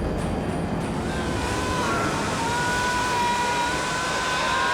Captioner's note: screaming